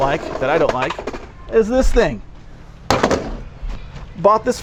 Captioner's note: slam